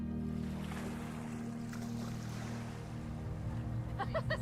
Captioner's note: waves rustling; woman laughing